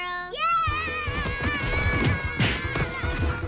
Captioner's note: punches